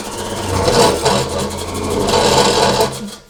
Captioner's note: grinding